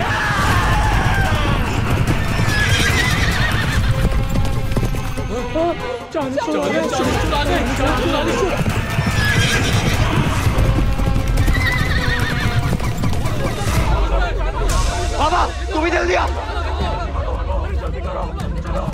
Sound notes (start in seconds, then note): 0.0 horses neighing; 8.9 horses neighing